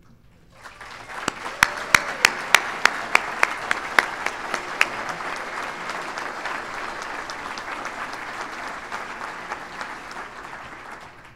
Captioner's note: applause